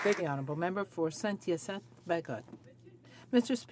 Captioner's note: some Applause